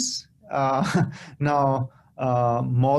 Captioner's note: laughter